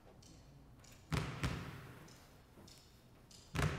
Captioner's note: dribbling